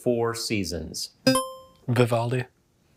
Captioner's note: buzzer chimes